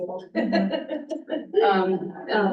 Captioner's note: laughs